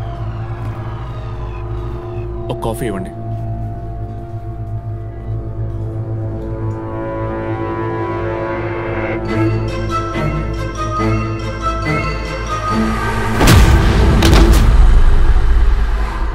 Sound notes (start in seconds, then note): none